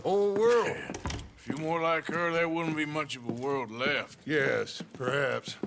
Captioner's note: laughs